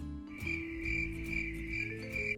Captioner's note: crickets